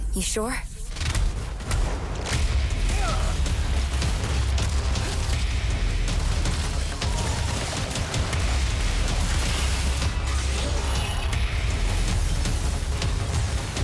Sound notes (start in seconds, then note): 2.9 cheers and applause